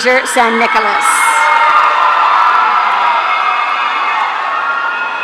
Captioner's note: audience cheering